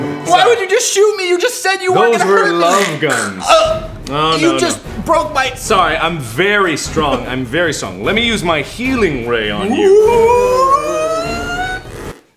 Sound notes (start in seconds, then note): 3.2 choking goose noises?; 9.5 sassy ghost noises?; 10.6 farting Noises